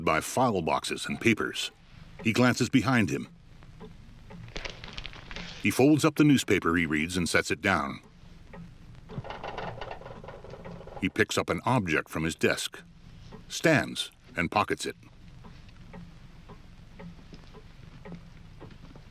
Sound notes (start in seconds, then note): 0.1 clock ticking; 4.5 paper rustling